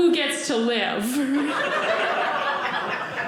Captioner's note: audience laughing